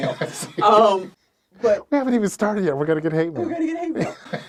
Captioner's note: laughs